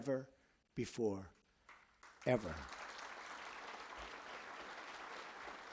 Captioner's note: applause